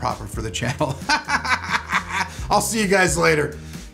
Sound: laughing

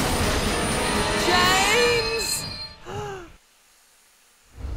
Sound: gasp

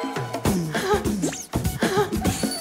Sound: confident

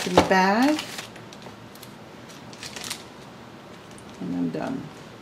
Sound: sound of crunching of bag

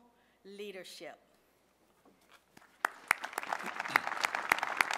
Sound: applause

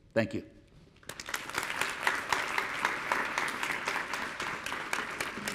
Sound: audience applauding

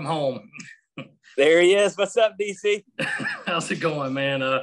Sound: laughs

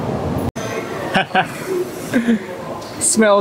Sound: laugh

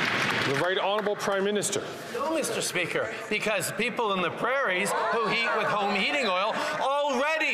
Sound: applause

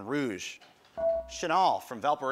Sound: buzzer

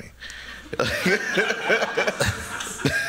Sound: laughter

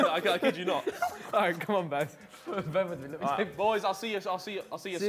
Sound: group chatters

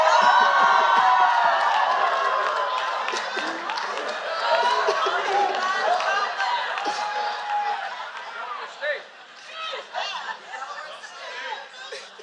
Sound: cheers & Applause

